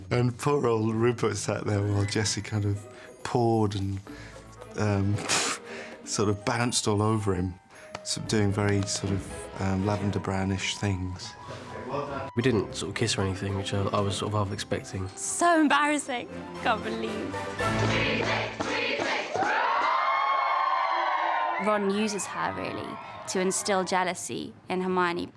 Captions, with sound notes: And poor old Rupert sat there while Jessie kind of pawed... ...and sort of bounced all over him. Sort of doing very sort of Lavender Brown-ish things. We didn't sort of kiss or anything, which I was half-expecting. So embarrassing. I can't believe it. STUDENTS [CHANTING]: Weasley! Weasley! [STUDENTS CHEERING] Ron uses her, really, to instill jealousy in Hermione.